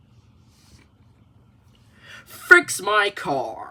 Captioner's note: silence